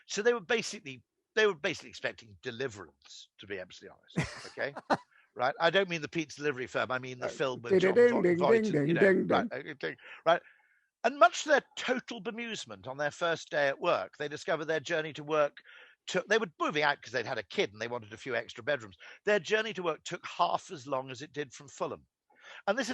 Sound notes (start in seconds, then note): 4.1 laughing; 9.8 humming